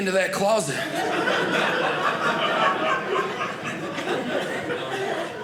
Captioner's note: audience laughing